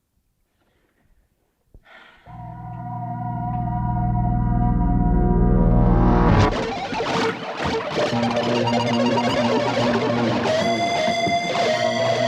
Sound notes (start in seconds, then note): 1.8 sighs; 2.3 ominous music; 7.0 static buzzing